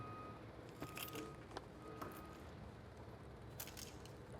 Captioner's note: keys rattling